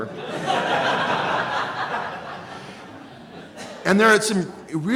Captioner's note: laughing